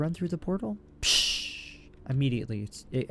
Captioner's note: fire extinguishing sound effect